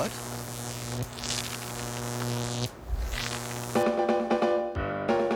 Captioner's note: <i> electrical buzzing</i>